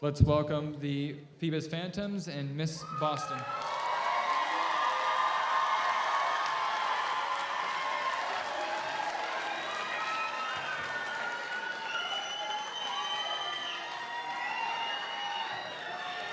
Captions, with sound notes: Let's welcome the Phoebus Phantoms and Miss Boston. (audience applauds) (audience cheers)